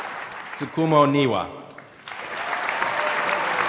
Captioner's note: applause